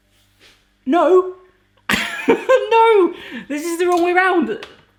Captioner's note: scoffs